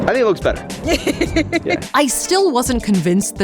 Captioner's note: laughs